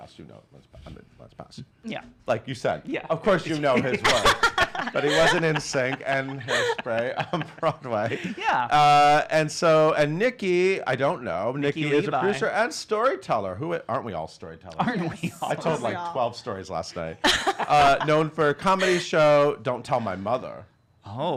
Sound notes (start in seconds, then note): 3.6 laughing; 17.2 laughing